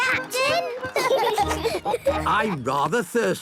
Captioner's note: laughing